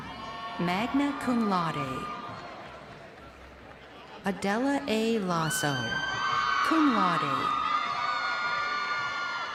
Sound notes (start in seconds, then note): 4.3 crowd cheering